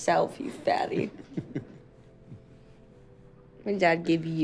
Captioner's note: chuckling